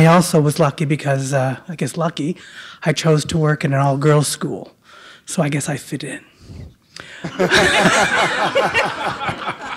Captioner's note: laughter